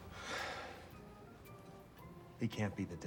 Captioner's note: sighs